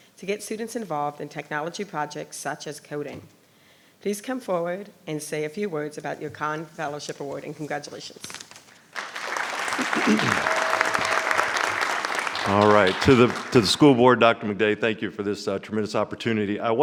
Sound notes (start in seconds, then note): 8.7 audience applauding